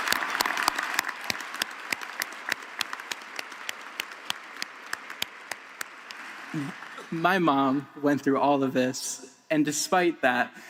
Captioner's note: applause